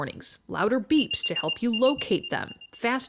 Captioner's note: beeping